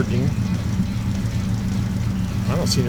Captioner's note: engine roaring